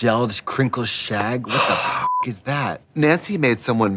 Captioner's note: beeping